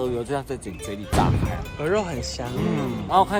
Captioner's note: the never-ending laugh loop